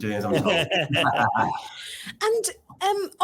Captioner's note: laughs